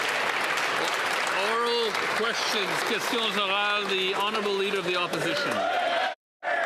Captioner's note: some Applause